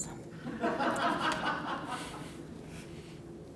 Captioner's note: laughter